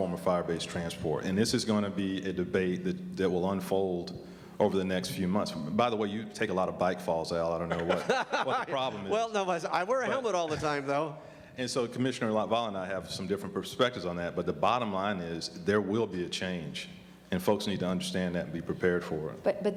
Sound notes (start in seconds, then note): 7.6 laughter